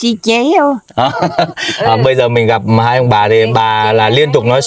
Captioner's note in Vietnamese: tiếng cười